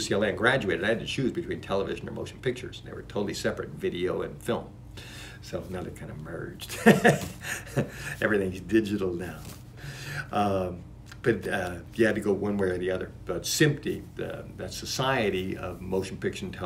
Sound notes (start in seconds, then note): 6.7 laughs